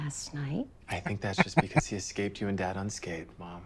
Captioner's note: chuckling